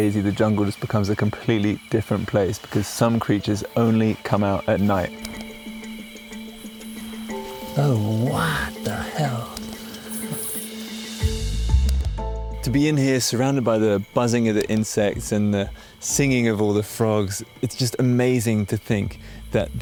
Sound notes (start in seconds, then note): 5.7 insects chirping; 5.7 stirring music continues